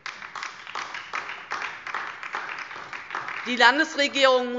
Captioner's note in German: Beifall DIE LINKE